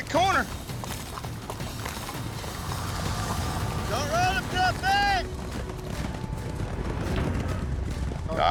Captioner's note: hoofbeats, shouting